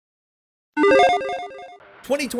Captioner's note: logo beeps